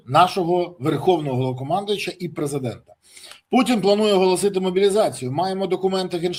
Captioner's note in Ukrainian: сопіння